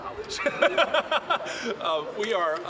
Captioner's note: laughing